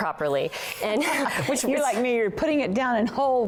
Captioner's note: laughter